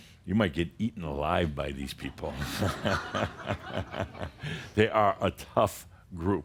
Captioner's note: Adamus chuckles